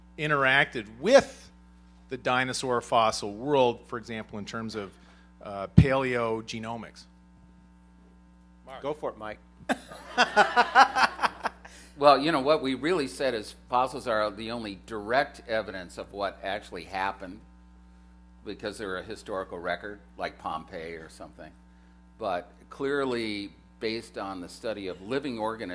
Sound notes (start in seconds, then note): 9.6 laughter